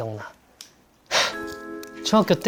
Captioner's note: sigh